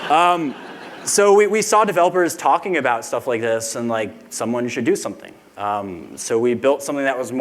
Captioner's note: laughter